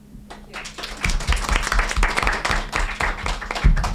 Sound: group applauds

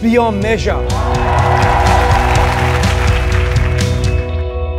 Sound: audience cheers

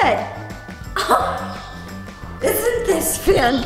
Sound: laughs

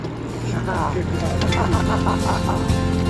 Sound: chuckling; laughing; reel spinning

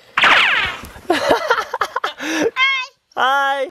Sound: laughs

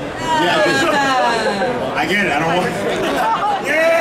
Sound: female announcer laughing; audience laughing

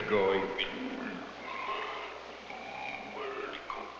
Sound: grunting

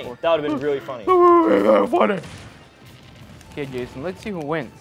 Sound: mocking

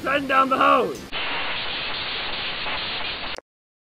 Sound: walkie talkie static

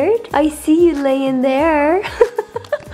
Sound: laughs

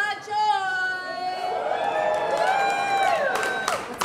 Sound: cheering

